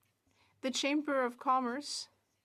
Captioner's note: speaking French